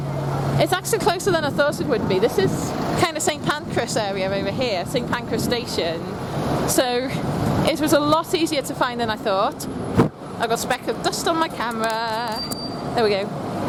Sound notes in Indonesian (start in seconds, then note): 9.8 Meniup mikrofon pada kamera